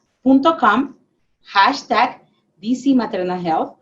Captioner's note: speaking spanish